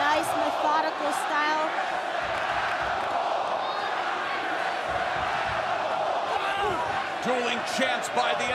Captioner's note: crowd cheering